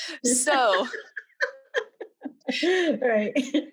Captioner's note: laughs